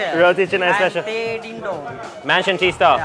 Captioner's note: murmurs